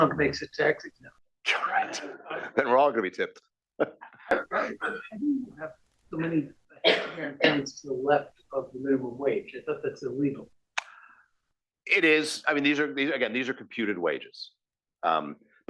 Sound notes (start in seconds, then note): 5.2 laugh